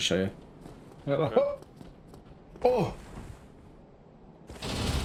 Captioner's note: jumping noises